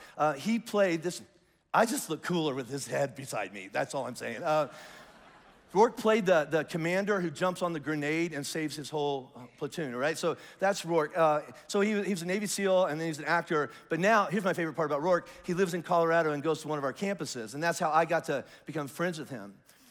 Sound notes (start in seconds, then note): 4.3 congregation laughs lightly